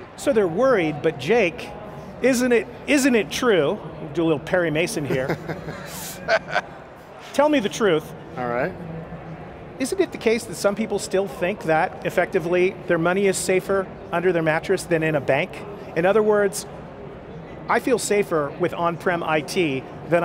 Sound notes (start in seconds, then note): 5.0 laughing